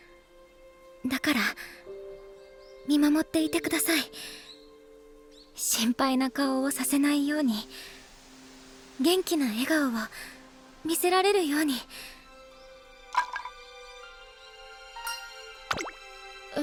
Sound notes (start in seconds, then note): 13.1 clunk